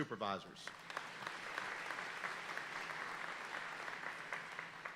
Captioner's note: audience applauding